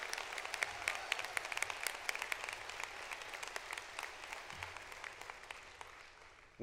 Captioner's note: applause